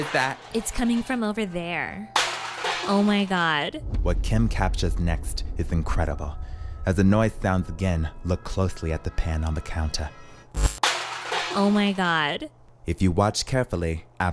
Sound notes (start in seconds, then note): 2.2 pans banging; 10.5 static crackling; 10.9 pans banging